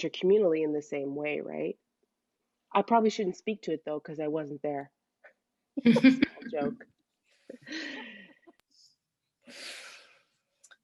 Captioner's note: laughter